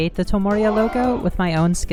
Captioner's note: crowd gasping